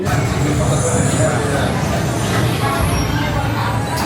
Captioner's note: coaster rumbling